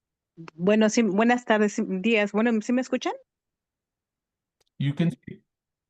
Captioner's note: speaking in Spanish